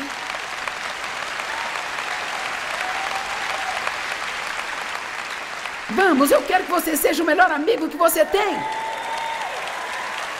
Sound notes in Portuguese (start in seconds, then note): 1.7 audiência aplaude; 8.8 audiência aplaude